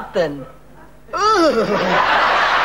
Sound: groaning

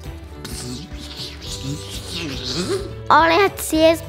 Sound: rewind noises

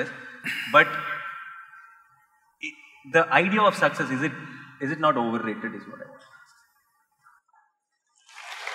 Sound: applause

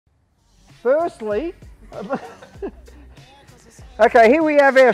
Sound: laugh

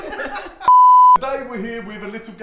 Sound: beep

